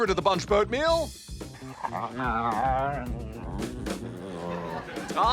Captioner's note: whines